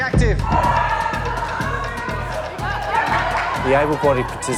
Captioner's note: shouting